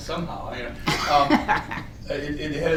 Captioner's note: laughs